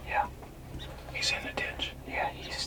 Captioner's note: whispering